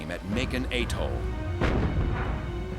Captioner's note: gunfire